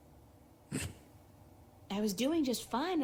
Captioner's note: laugh